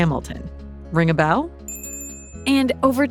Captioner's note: bell rings